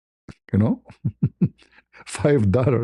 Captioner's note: ketawa